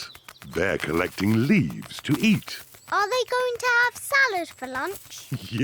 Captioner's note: laughs